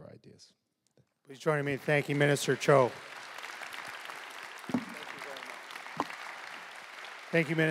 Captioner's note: applause